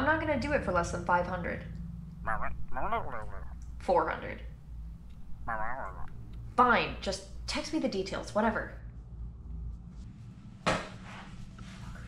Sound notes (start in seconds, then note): 3.0 distorted reply